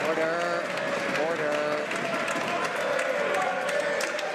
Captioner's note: some Applause